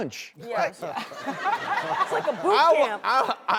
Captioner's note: laughter